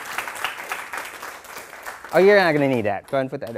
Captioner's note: applause